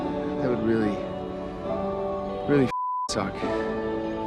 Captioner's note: beeping